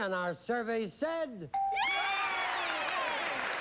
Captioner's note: cheering and applause